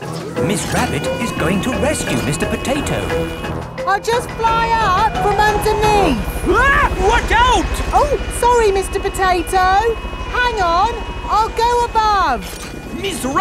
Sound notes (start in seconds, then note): 6.8 screams